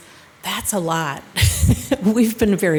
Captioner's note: laughs